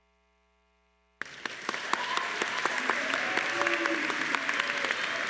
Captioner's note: crowd applauding